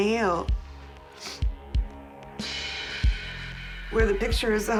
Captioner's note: sniffs